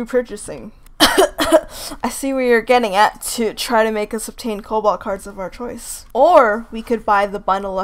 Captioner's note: cough